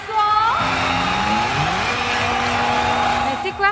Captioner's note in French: cris de la foule